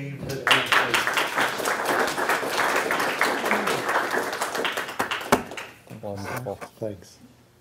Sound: applause

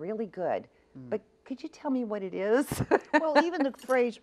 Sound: laughs

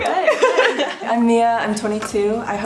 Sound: laughs; soft clicking

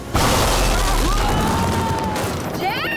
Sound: screaming

